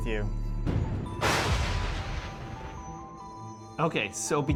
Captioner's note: crackling lightning bolt